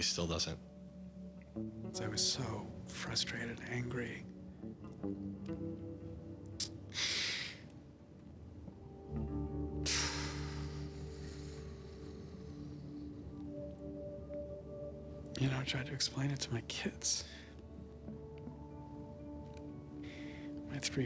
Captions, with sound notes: and really still doesn't. I was so frustrated, angry. [exhales] You know, I tried to explain it to my kids.